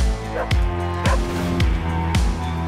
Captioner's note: dog barks; fragments whoosh